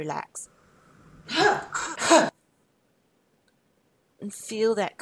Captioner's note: 'ha' sounds